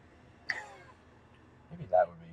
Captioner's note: laughs